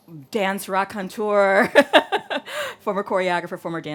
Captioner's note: laughs